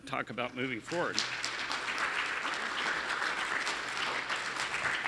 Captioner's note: audience clapping